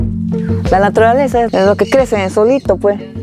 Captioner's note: speaking spanish